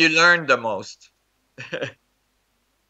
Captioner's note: laugh